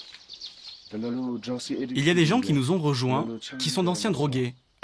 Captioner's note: dzongkha spoken audio